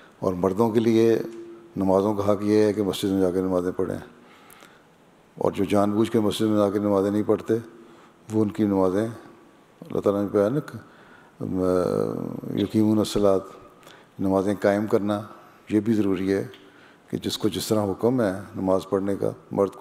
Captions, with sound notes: It is the duty of Men to offer their prayers in a mosque as a means of fulfilling this obligation. And those who knowingly choose not to offer their prayers in a mosque, for them Allah the Almighty has stated: (Arabic) - Observing prayer, in congregation, is also a command of God. Meaning that they should be observed in accordance to how they have been commanded to do so.